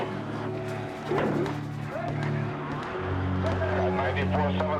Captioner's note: distant shouting, popping sounds